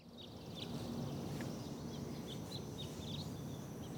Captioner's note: birds singing